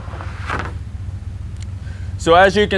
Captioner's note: wood clanking